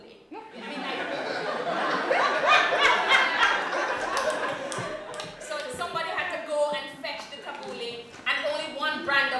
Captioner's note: laughter